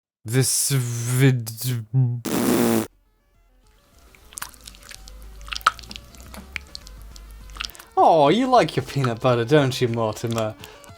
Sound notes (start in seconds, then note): 4.2 unsettling squishing noises